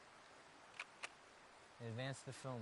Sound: shutter clicks

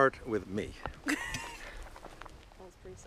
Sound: knee cracking

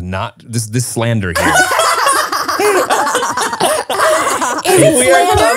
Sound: everyone laughs

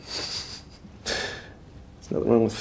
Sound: chuckles

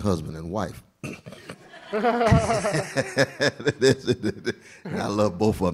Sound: laughter

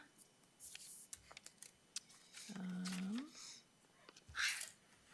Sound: paper rustling

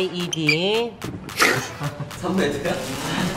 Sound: just laughing

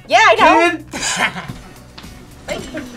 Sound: laugh

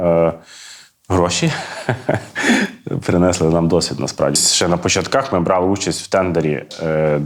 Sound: laugh

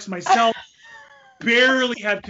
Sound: laughs

